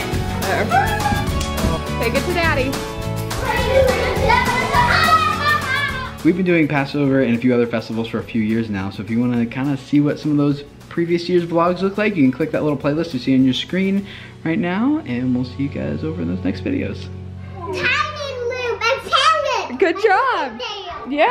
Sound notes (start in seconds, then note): 5.1 children yelling